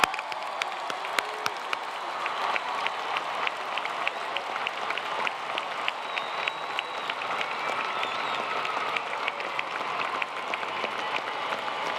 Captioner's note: applause